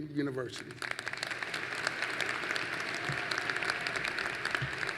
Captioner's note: applause